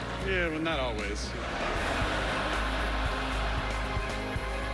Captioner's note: laughter